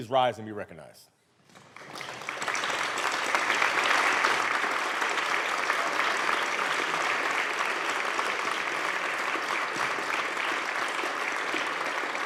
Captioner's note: applause